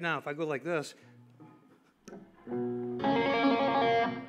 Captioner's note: tapping notes